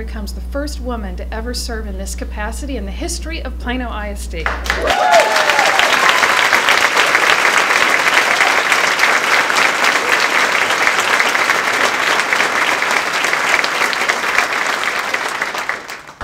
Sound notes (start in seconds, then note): 4.4 applause; 4.6 cheering